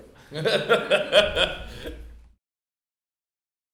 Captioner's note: laughs